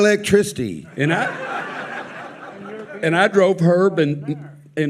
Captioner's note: audience laughing